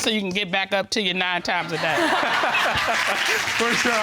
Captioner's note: all laughing